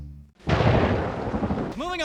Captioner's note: dramatic boom of thunder